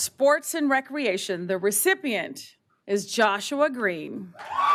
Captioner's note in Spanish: aplausos